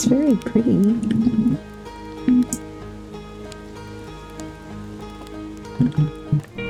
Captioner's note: giggles